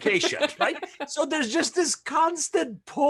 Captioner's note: laughs